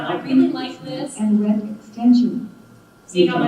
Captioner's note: computer Voice